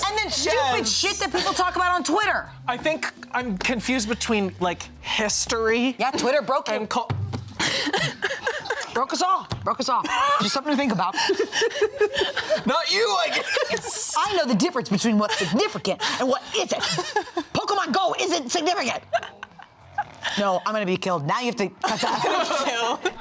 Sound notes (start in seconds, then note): 7.6 laughs; 11.4 all laughing